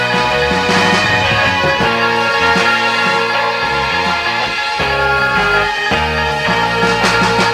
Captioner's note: screams